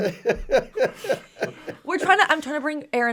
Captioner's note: all laugh